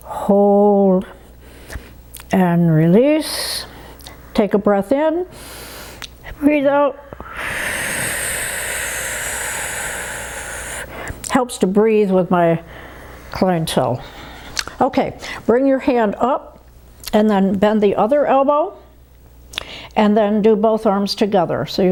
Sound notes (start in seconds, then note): 7.2 inhales; 7.2 exhales